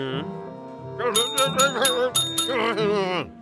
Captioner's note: bell ringing weakly; grumbling